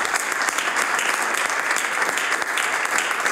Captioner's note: applause